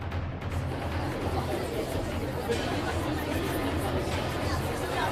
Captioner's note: murmur; chatter; whipser